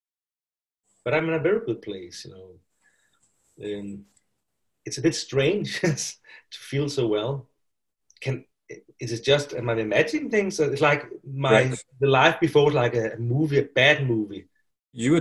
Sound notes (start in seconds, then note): 5.6 laughs